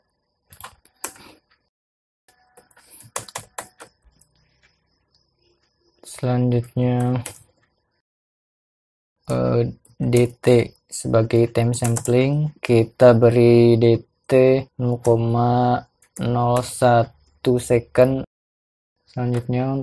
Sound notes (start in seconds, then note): 9.2 typing